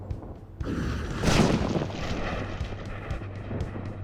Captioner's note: thunder roars